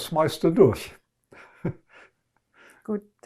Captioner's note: laughing